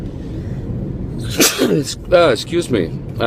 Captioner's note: sneezes